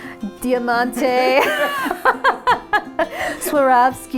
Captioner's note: laughs